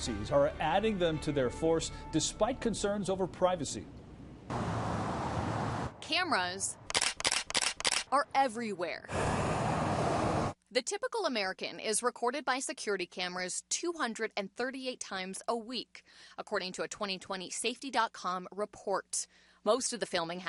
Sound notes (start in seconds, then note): 8.0 driving cars